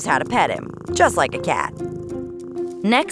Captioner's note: purring